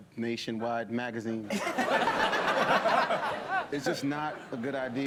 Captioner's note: laughter